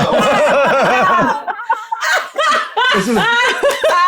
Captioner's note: group laughs